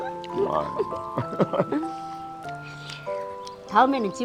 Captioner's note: both laughing